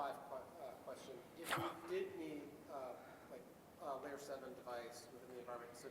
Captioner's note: laugh